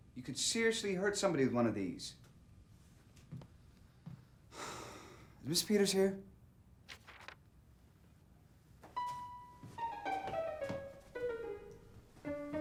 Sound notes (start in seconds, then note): 4.5 sighs; 8.9 bouncy piano music